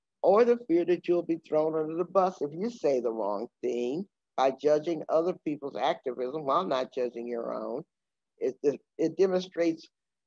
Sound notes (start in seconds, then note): none